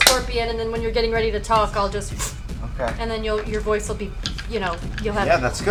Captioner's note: whoosh